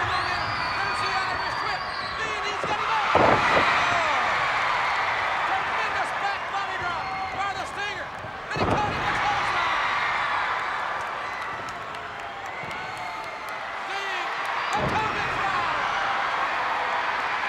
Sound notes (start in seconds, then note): 3.8 crowd cheers